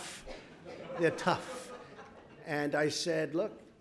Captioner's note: laughter